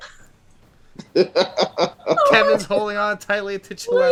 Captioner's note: laughter